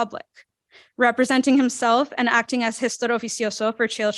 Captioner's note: non-english speech